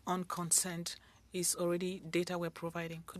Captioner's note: speaking French